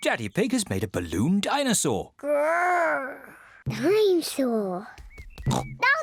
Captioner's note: growls; oinks